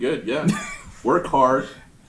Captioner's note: laughing